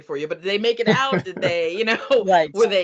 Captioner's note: laughing